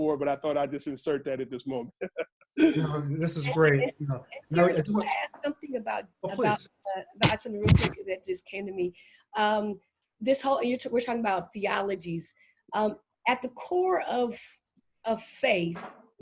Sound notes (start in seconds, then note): 0.2 laughing; 6.3 audio glitch